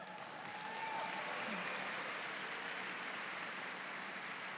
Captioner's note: audience cheers